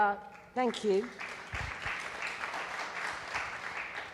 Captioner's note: applause